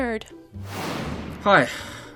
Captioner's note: air whooshing